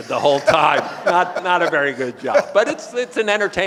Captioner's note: audience laughing